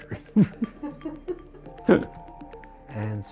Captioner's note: laughter